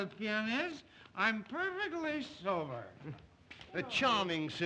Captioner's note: slurring words